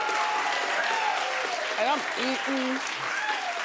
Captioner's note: audience applauding